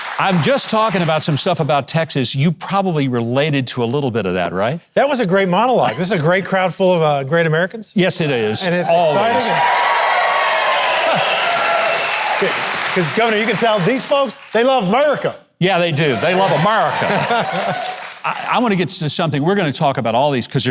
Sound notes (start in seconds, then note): 8.8 audience applauding; 16.9 Pat laughing